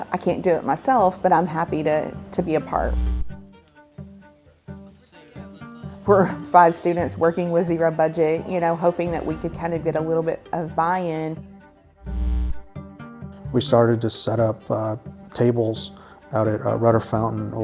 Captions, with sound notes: I can't do it myself, but I'm happy to be a part." (static) (calm music) We're five students working with zero budget, you know, hoping that we could kind of get a little bit of buy-in. (static) (calm music) - We started to set up tables out at Rudder Fountain